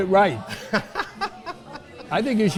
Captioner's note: laughing